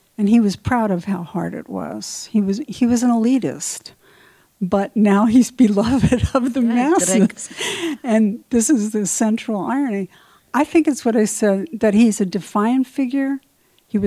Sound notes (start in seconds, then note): 5.9 laughs